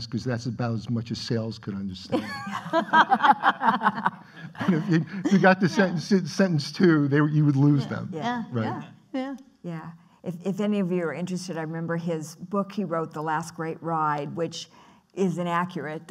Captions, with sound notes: because that's about as much as sales could understand. (laughing) You got to sentence two you would lose them. Yeah, yeah. Yeah, if any of you are interested I remember his book he wrote, The Last Great Ride which is inaccurate.